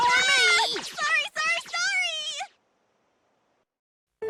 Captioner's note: panicked scream